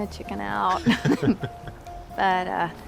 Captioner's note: chuckling